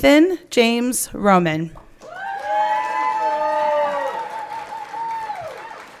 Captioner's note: everyone cheering